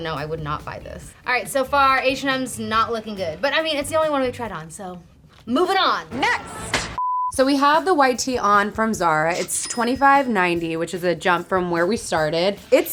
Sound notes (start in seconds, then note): 7.0 color bars beeping; 7.3 upbeat music; 9.5 cash register dinging